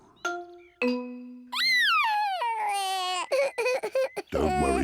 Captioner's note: sobbing